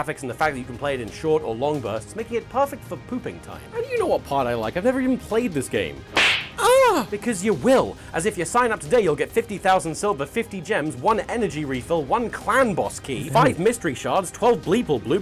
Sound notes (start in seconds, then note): 6.1 slap